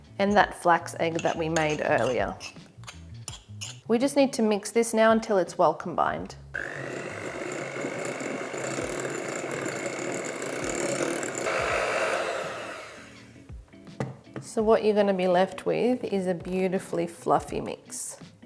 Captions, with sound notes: and that flax egg that we made earlier. We just need to mix this now until it's well combined. (mixer whirling) So what you're gonna be left with is a beautifully fluffy mix.